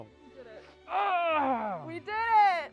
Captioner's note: yells